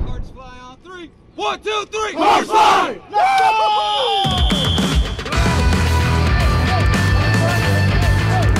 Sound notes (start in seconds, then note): 3.8 shrill whistling